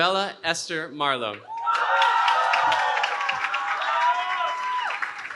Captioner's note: cheering